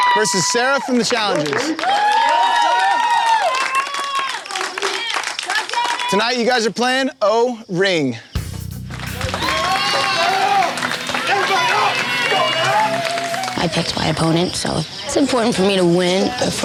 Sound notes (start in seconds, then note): 2.2 crowd cheering; 8.7 all cheering